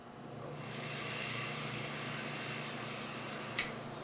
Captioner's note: blender whirring